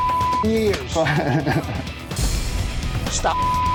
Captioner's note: laughter